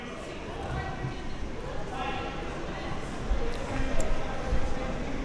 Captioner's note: spectators chattering